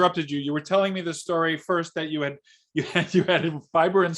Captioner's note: chuckles